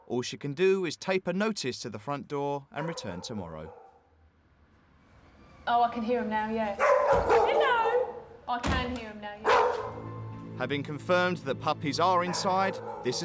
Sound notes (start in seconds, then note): 5.5 puppies whining; 6.7 dog barking; 9.8 dramatic music